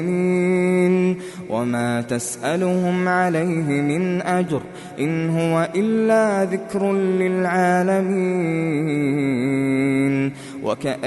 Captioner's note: reciting